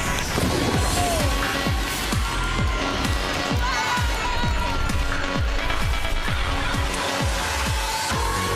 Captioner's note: theme music playing; indistinct chatter